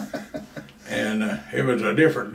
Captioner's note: laughs